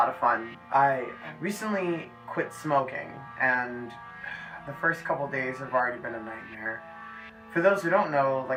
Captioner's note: sighs